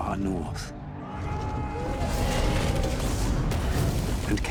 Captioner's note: people screaming